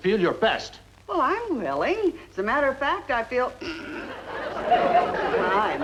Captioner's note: blowing nose